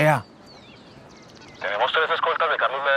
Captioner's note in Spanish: Voz en la radio